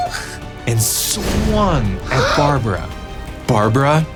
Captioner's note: child gasping